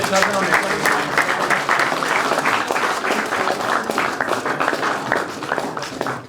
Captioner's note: applause